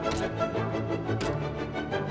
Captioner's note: revolver fired X2; revolver fired X4; revolver fired X3